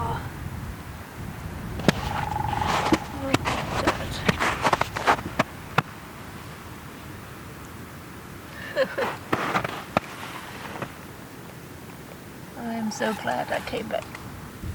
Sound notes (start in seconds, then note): 1.8 sound of a woodpecker; 8.5 laughs